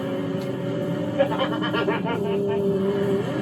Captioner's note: Richard laughs